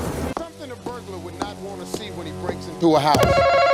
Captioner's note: TV Noises